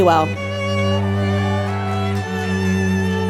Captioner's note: applause